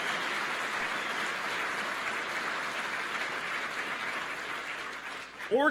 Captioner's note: applause